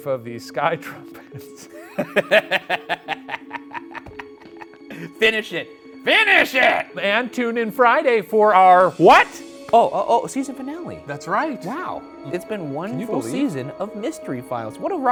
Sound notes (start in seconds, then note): 1.5 both laughing; 1.6 eerie music